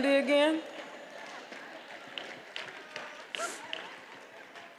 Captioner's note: attendees applauding